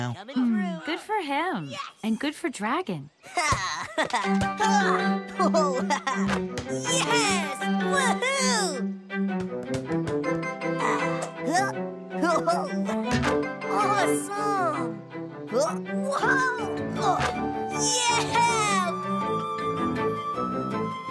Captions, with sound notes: HMMM. GOOD FOR HIM. AND GOOD FOR DRAGON. (CONFIDENT EXCLAMATIONS) YES! WOO-HOO! AWESOME! YEAH!